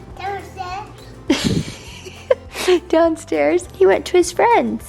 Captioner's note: chuckles